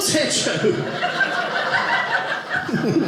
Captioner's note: audience laughing